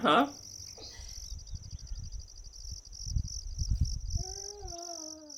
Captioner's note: crickets chirping